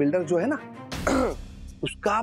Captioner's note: clears throat